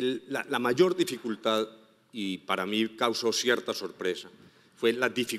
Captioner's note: speaking in foreign language